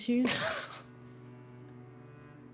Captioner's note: somber music; Claire scoffs